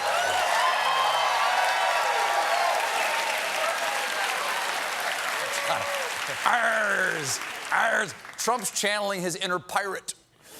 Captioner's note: applause